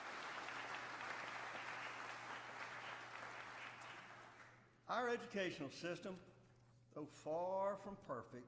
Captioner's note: applause